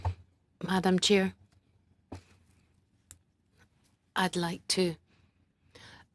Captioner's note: speaking French